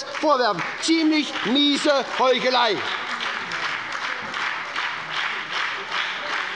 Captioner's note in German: Beifall bei der SPD und der FDP